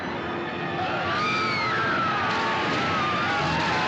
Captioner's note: Gritando